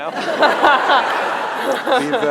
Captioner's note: laughter